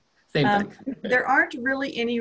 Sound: laughs

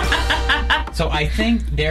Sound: laughs

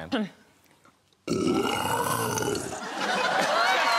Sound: roaring; audience cheers

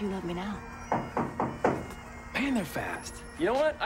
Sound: knock at door

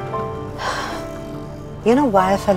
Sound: sighs

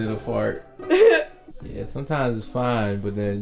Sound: laughs

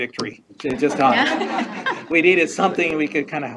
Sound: all laughing

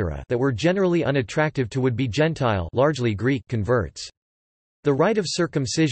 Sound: largely Greek

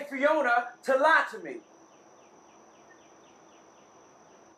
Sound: birds chirping

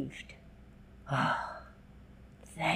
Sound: sigh

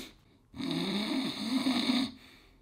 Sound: snoring

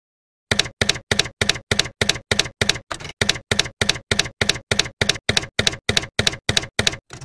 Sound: typewriter keys clacking

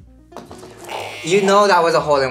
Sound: buzzer rings

